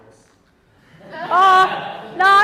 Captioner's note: audience laughing